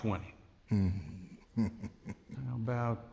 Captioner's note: chuckling